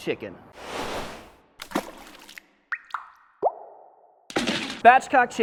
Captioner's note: liquid dripping